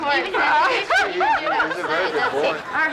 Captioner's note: woman laughs